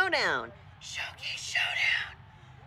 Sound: whispers

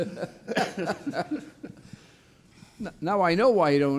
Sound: laughing

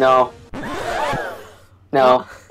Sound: record scratch, crowd gasps

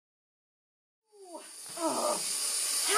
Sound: hissing

